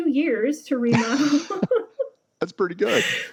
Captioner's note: laughs